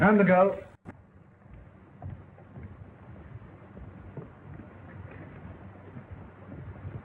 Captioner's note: footsteps